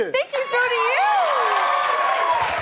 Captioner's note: cheers and applause